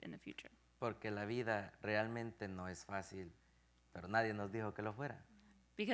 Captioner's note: speaking in Spanish